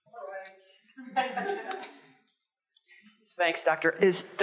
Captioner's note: audience chuckles